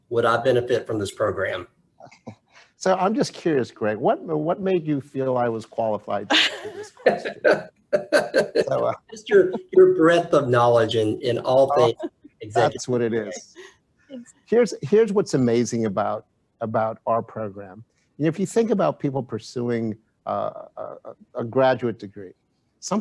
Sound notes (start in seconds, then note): 2.4 chuckles; 6.3 chuckles; 7.9 laughs